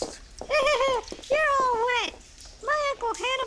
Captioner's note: laughing